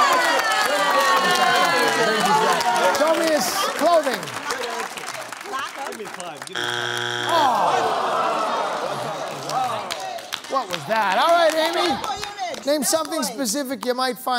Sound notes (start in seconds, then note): 0.1 cheering; 6.5 buzzer sounds; 6.6 audience groans